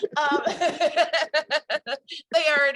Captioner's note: both laugh